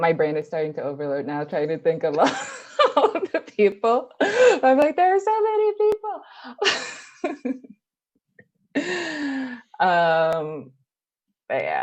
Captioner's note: laughs; laugh